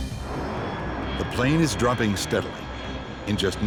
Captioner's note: voiceover